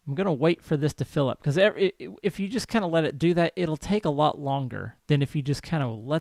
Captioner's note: stammers